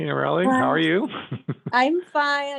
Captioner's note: laughing